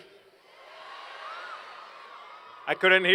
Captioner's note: cheers and Applause